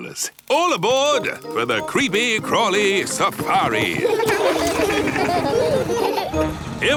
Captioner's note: laughing